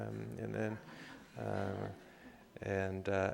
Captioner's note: laughter